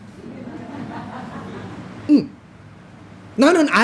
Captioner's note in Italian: Risata